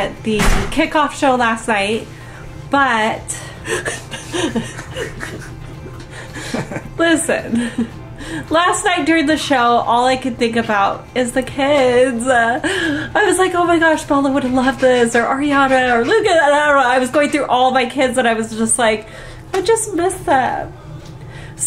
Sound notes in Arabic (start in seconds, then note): 6.1 ضحك